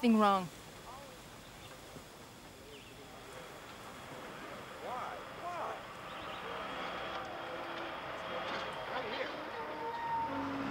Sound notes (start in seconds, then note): 2.9 machinery rumbling; 7.8 birds chirping